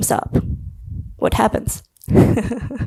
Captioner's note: laughs